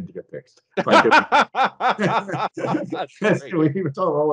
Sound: both laughing

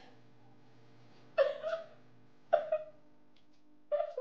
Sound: crying

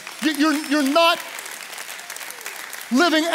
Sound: congregation applauds

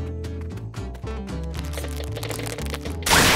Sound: glue creaking; tree crunches

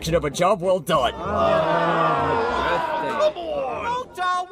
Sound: CARPENTERS all groan in unison

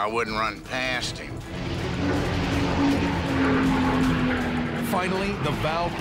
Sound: plane roaring

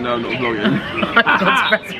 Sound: both laugh

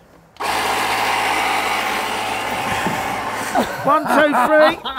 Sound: pump blowing

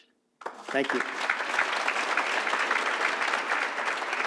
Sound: audience applauds

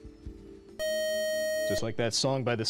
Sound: time-out buzzer

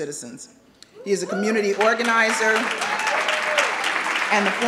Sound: audience cheering

